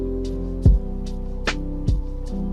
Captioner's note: none